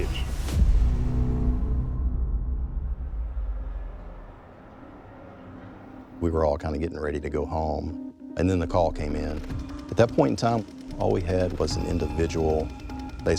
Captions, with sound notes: (tense music) (traffic whooshing) - We were all kinda getting ready to go home and then the call came in. At that point in time, all we had was an individual basically lying